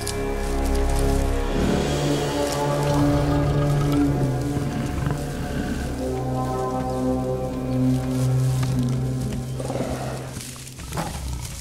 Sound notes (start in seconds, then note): 2.6 Growling; 5.8 Growling Continues